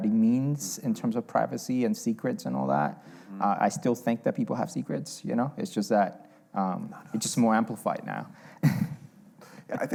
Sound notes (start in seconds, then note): 6.3 whispering